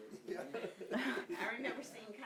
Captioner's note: audience laughing